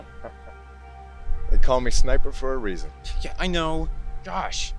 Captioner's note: chuckles